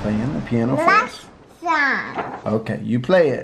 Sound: babbles

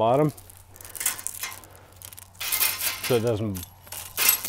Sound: chain clinking

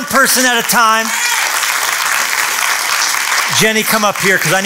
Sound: applause

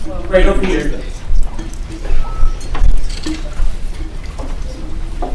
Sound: speaking faintly

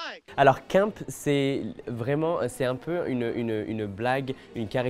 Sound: Nicky speaking French

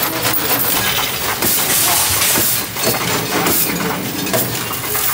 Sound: coins rattling

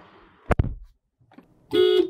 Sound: door Thud

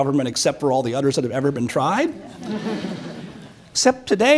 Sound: audience chuckles

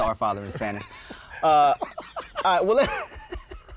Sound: both laughing

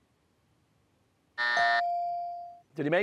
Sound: buzzer; bell rings

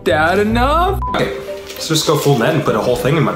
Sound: beep

